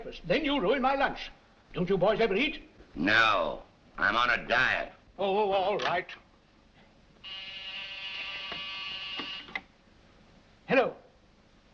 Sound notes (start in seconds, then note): 7.2 phone buzzes